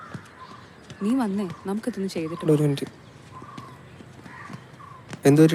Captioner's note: people talking outside audition hall